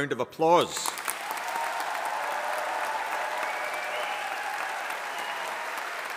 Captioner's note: audience applauding and cheering